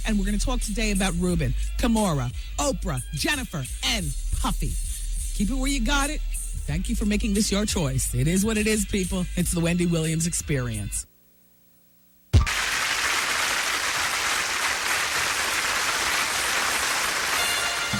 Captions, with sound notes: And we're going to talk today about Ruben Kamora Oprah Jennifer And Puffy Keep it where you got it Thank you for making this your choice It is what it is, people It's the Wendy Williams experience (Applause)